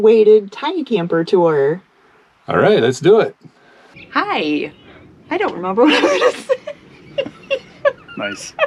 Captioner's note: laugh